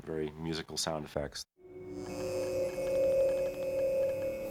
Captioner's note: ringing and whirring